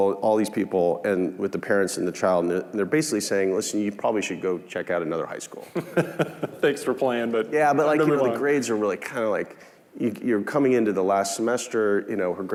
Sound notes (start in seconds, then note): 5.6 laughing